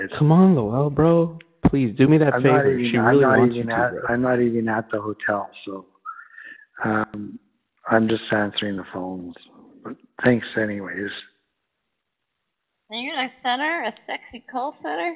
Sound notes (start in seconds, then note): none